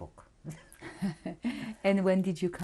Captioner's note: laughter